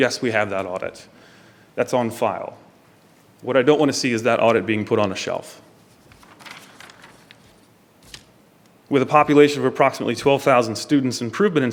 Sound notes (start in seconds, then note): none